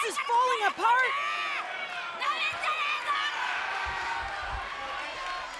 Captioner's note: loud angry screaming